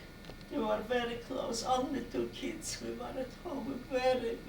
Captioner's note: cries